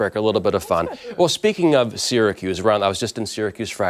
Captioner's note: laughter